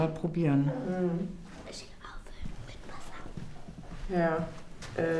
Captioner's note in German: flüstert